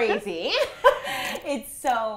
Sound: laughing

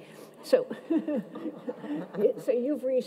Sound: laughs

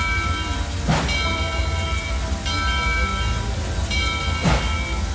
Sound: bell ringing, engine chuffing

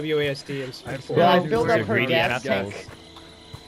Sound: everyone talking

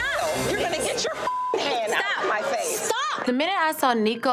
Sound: beep

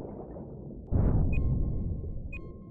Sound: beeping

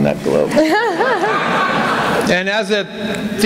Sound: laughter

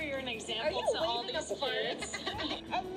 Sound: laughing

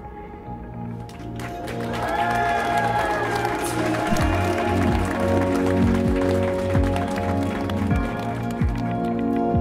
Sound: applause

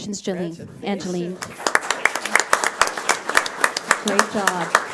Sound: audience applauds

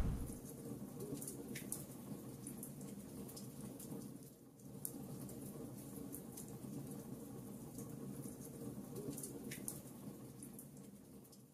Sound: fire woosh; fire crackling

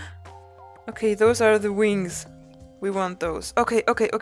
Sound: gasps

